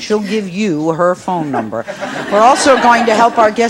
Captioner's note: audience laughs